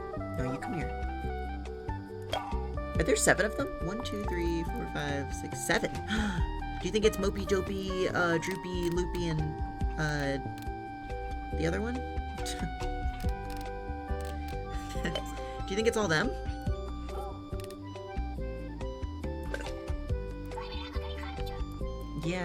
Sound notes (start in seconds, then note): 6.0 gasps